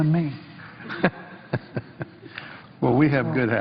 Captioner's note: laughter